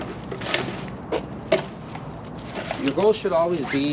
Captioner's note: plastic bag rustling